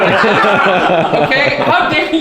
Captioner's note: laughing